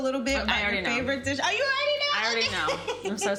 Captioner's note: laughs